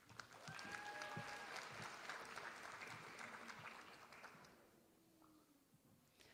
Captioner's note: applause